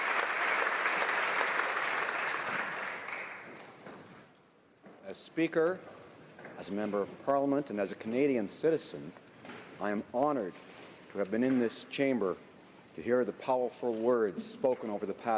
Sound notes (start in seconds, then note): 4.6 applause